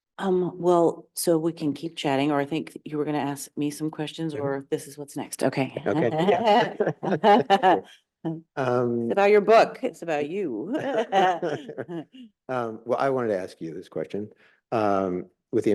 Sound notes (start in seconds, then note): 5.8 chuckling; 10.6 chuckling